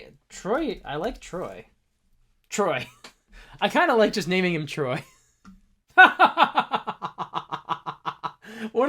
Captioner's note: laughter